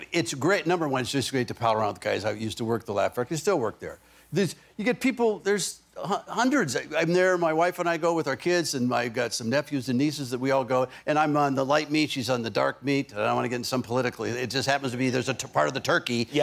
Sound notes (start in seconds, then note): none